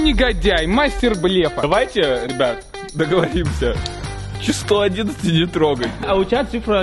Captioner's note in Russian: смеется